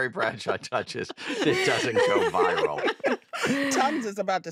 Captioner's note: all laugh